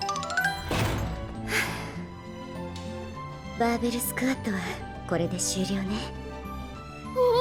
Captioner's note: exhales